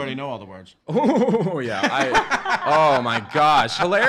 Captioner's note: laughing